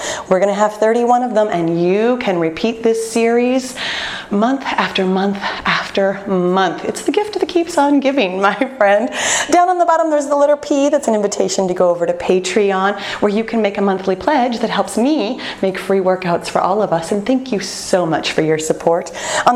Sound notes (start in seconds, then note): none